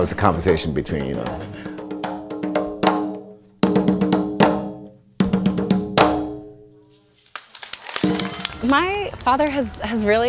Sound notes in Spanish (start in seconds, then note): 2.2 Tamborileo; 7.2 Aplausos